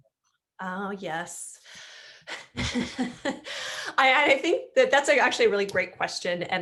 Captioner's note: laughs